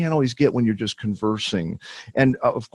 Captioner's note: laughs